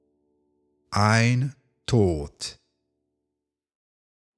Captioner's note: german